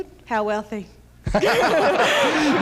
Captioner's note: laughter